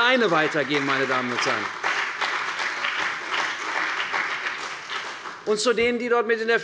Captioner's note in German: Beifall bei der CDU und dem BÜNDNIS 90/DIE GRÜNEN